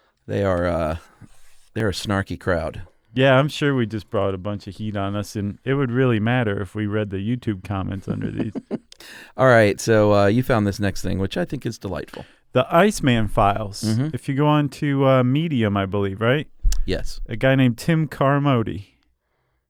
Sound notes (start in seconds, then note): 7.9 chuckles